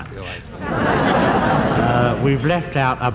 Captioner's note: audience laughs